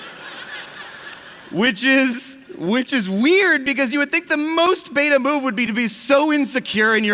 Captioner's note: laughter